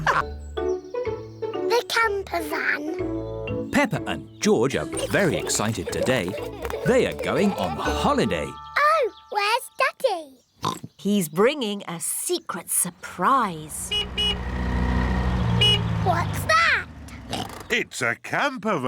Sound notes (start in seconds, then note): 10.6 oinks; 13.7 horn honks; 17.2 oinks